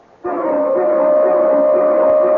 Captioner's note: barking